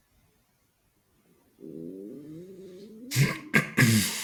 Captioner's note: sighing